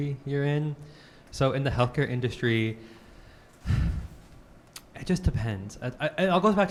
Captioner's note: sighs